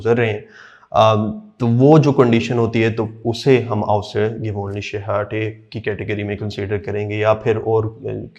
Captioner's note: speaks in german